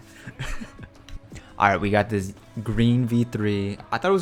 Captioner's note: laughs